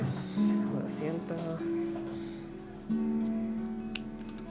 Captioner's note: speaking in Spanish